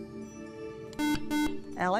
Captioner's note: buzzer